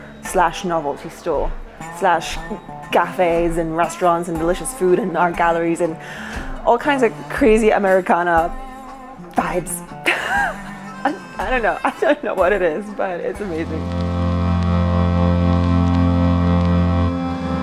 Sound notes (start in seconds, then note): 10.6 scoffs; 14.8 serene music